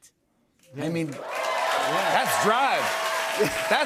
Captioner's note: cheers and applause